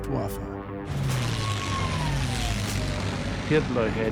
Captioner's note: high siren